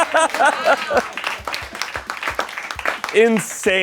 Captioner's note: laughs; crew applauds